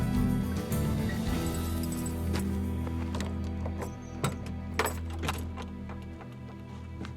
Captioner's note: keys jangling, unlocking